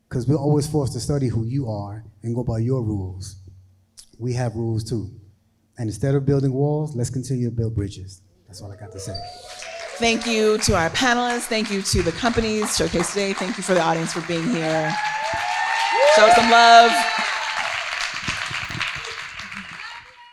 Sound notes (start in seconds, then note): 9.4 crowd applauding; 9.4 crowd cheering; 15.1 crowd cheering